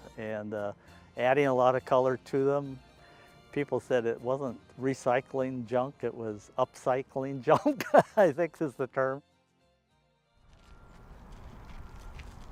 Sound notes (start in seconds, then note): 7.4 laughing